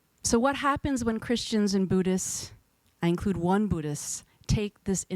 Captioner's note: none